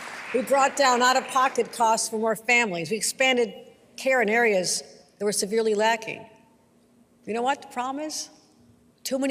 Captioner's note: applause